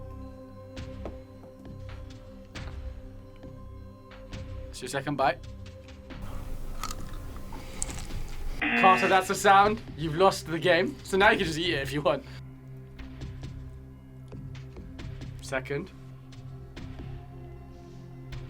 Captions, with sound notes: It's your second bite. (nachos crunches) (klaxon blares) Carter, that's a sound. You've lost the game, so now you can just eat it if you want. Second.